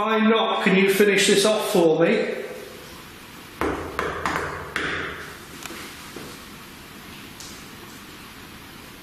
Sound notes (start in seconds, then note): 3.6 loud knocking